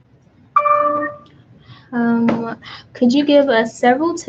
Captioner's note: computer dings